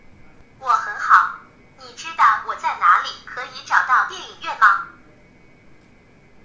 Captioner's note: translator device speaking in foreign language